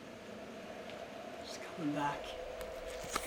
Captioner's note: wind howling